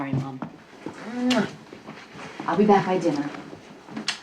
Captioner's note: Mary smooches